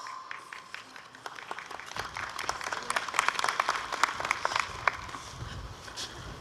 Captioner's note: applause